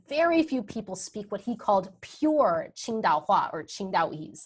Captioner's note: speaking in a foreign language